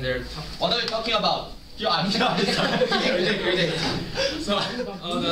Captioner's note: laughter